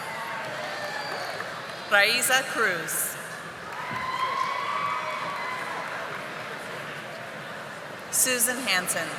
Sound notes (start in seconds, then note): 2.0 audience applauding